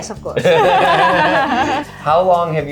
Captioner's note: laughing